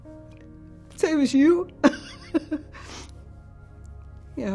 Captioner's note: laughing and crying